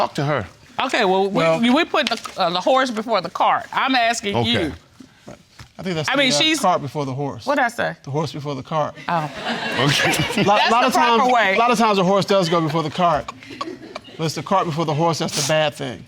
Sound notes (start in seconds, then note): 9.1 audience laughs